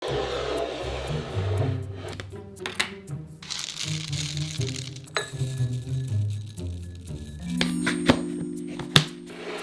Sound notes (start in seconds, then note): 0.0 bowl sliding across table; 3.4 oats pouring